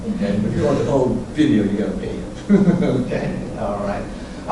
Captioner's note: laughs